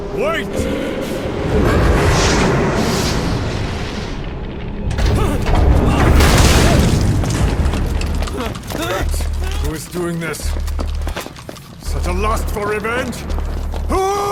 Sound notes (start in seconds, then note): 2.5 fire roars; 4.8 character groans; 6.1 machine slams; 7.7 character groans